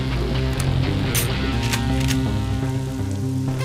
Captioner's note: Gun cocks